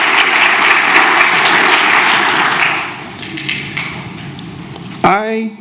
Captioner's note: applause